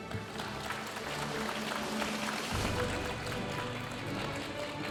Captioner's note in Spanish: aplausos de la audiencia